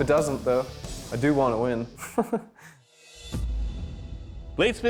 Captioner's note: laughs